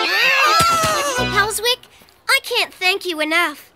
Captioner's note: screaming